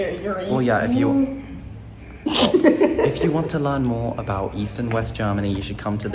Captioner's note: laughter and snorts